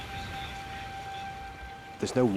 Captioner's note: gentle music; water trickles